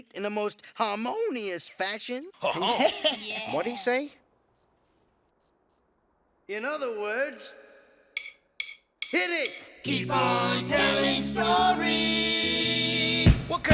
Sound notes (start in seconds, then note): 2.4 chuckles; 4.2 crickets chirping